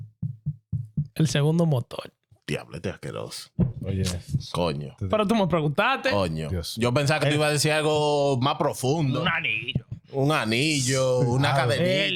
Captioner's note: heart Beating; laughing; speaking In Foreign Language